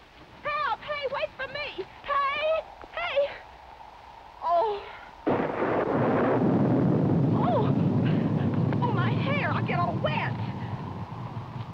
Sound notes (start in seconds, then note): 5.2 thunder; 11.5 thunder continues